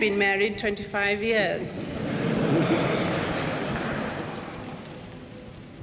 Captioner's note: people laughing